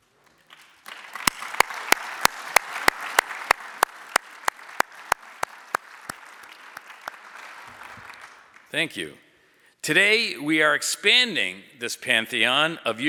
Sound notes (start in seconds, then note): 0.1 audience applauding